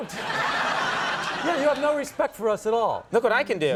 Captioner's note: audience laughs